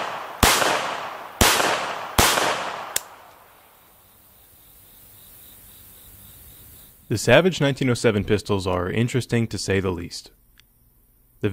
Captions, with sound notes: (clicking) - The Savage 1907 pistols are interesting to say the least.